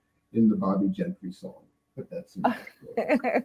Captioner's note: stoner laughing